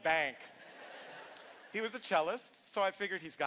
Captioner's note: laughter